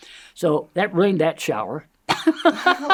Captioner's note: laughs